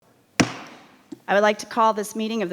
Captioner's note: gavel pounding